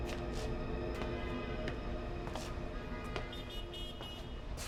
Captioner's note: sinister music; footsteps pattering; car horn honking